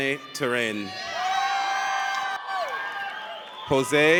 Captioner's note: audience cheers